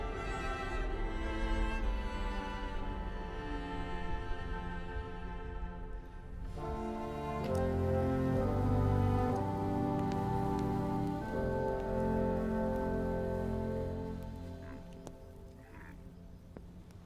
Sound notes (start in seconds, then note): 0.3 music softens; 10.2 fire crackles